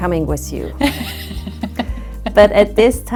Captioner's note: laughs